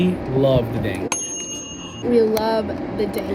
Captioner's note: air fryer dinging